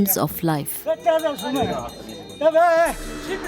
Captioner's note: bell jingling